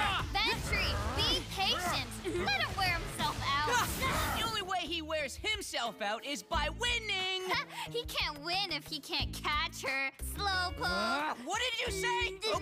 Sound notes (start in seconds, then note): 3.6 grunting